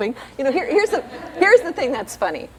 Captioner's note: laughter